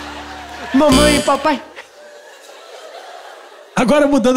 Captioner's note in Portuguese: campainha